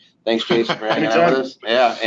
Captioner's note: laughing